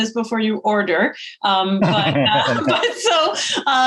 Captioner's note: both laugh